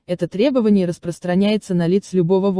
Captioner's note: in English only